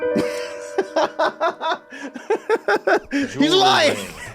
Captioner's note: laughs